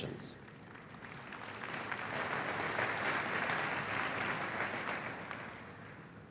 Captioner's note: applause